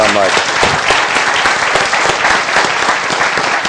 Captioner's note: applause